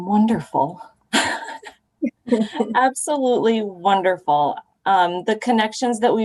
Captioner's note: laughter